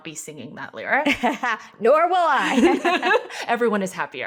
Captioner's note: laughing